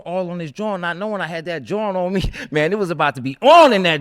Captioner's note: laughs